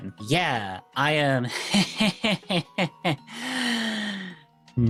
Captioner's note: nervous laughing